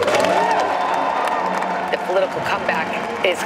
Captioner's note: audience cheers